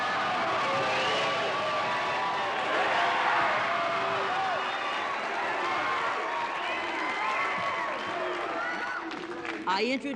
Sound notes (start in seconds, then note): 0.0 audience cheering; 0.0 audience applauding